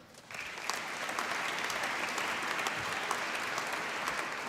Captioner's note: applause